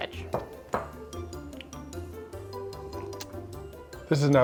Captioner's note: cup clinking